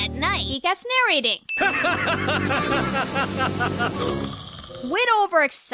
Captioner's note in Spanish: se ríe, luego ronca